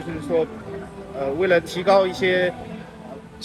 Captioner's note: traffic